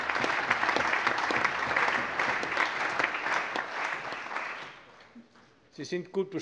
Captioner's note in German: Allgemeiner Beifall